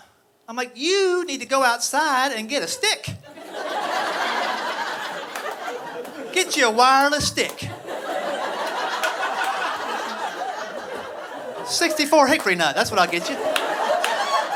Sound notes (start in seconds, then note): 3.2 audience laughing